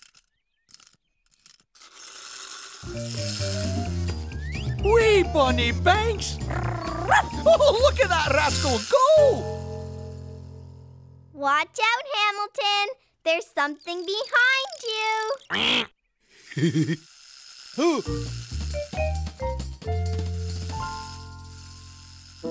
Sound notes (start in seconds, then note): 5.9 laugh; 6.5 excited bark; 16.3 chuckle